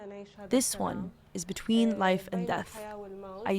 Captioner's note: through translator